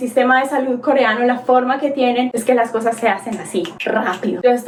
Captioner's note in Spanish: chasquido de dedos